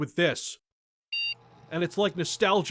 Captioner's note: classic game startup beep